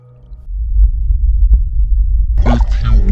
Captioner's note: bass rumble grows